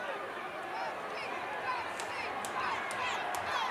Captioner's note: crowd chanting